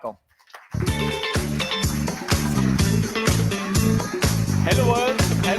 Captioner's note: audience applauds; upbeat music